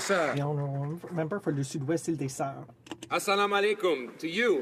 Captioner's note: some Applause